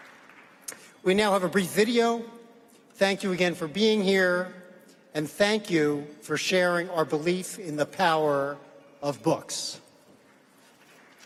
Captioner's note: applause